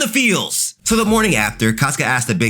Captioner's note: air whooshing